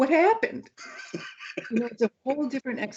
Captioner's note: laughs